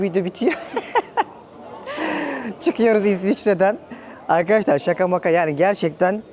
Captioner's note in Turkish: kahkaha